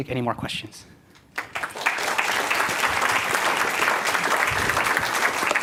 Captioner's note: applause